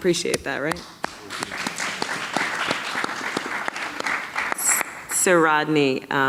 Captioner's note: audience clapping